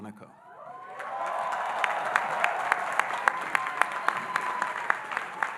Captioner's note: audience cheering and applauding